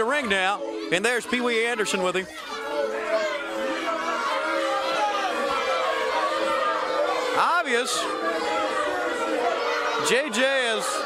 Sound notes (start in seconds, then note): 3.0 crowd chatter